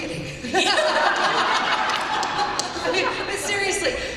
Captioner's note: laughter